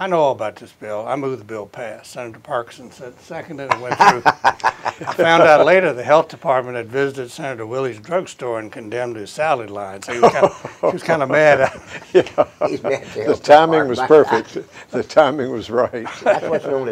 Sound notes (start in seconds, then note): 3.7 chuckles; 11.4 laughter